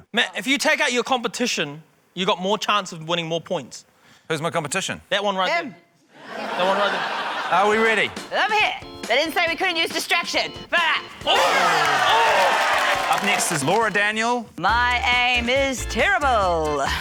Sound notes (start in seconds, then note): 6.1 laughter; 11.2 cheering, applause